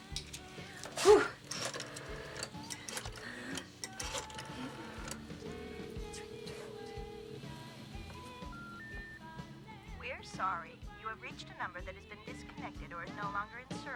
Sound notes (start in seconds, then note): 6.0 telephone ringing; 9.0 beeping